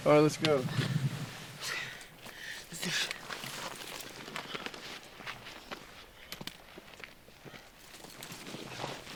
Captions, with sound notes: All right, let's go. - (breathing heavily) Let's do this.